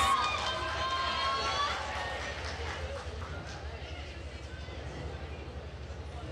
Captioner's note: attendees cheering and applauding